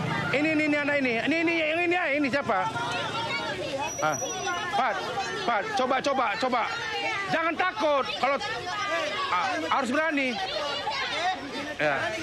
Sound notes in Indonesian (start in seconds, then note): none